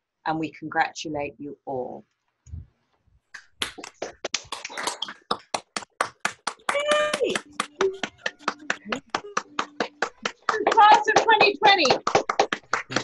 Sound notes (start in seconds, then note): 3.8 applause